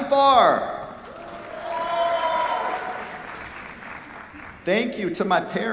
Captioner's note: cheers, applause